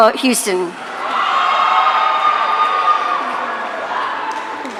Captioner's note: audience cheering